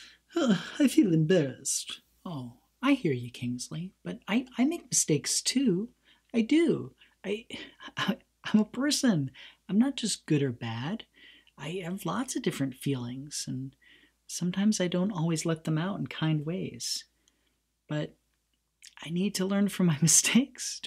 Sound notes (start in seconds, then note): none